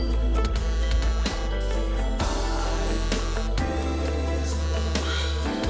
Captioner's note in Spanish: Vibra el celular